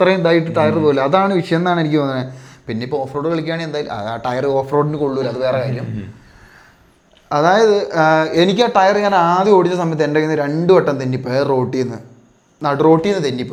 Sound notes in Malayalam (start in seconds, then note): 5.7 തൊണ്ട ശരിയാക്കുന്നു